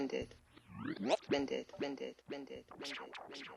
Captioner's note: tape rewinds